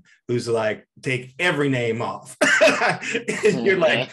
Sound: laughs

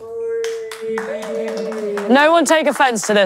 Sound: contestants cheering

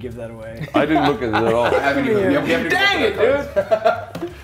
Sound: laugh

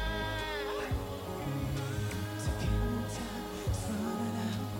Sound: echoing

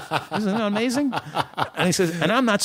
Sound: laughter

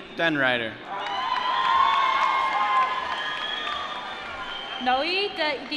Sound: applause

